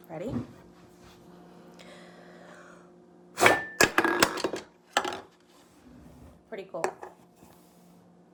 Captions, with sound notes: Ready? (can clattering) Pretty cool.